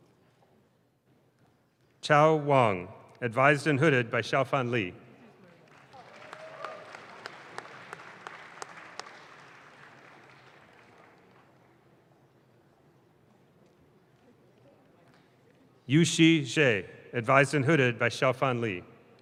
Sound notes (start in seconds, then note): 5.4 audience claps